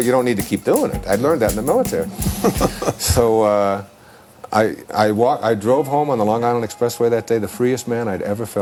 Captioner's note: chuckle